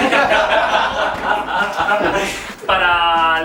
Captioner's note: laughs